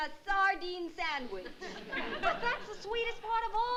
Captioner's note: laughter